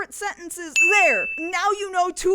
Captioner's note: dings